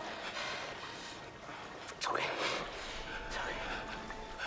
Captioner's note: breathes shakily; leroy breathes shakily